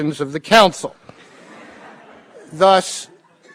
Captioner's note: laughter